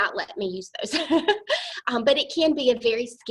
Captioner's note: laughter